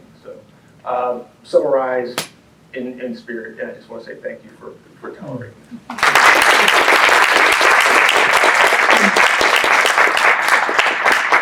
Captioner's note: applause